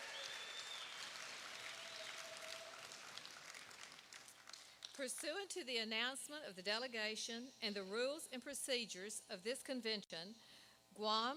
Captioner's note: applause